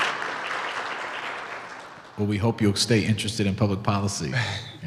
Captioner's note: clapping